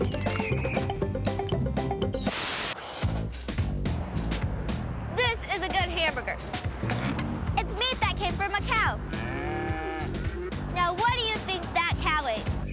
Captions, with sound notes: THIS IS A GOOD HAMBURGER. IT'S MEAT THAT CAME FROM A COW. [ MOOING ] NOW, WHAT DO YOU THINK THAT COW ATE?